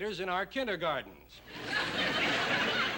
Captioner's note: laughter